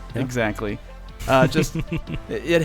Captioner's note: men laughing